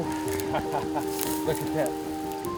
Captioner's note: laughing